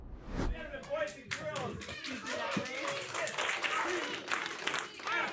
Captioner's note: everyone clapping